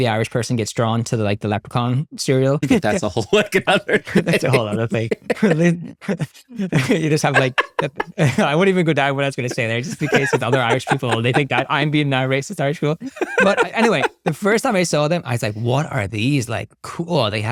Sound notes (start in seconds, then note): 2.6 laughing